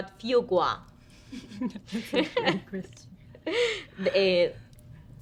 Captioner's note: women chuckle